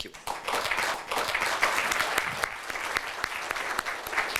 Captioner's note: applause